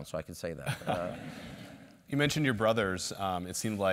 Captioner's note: laugh